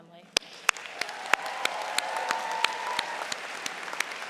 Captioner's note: cheering